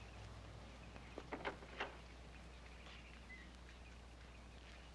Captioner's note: door opens